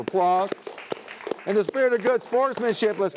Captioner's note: all applauding